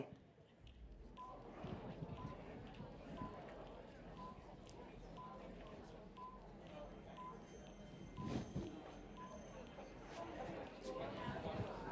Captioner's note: background Discussion and Beeping Timer